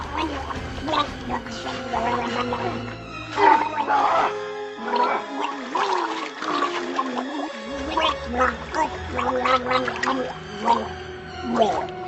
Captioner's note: Mr. Bucket gargling and drowning